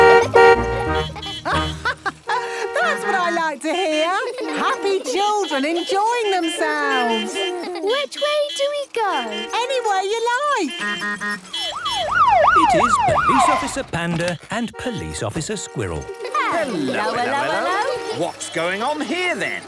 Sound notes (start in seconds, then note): 0.0 honking; 0.2 horns honking; 1.4 laughing; 6.8 laughter; 10.3 honking, siren wailing